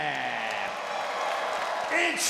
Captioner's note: crowd applauds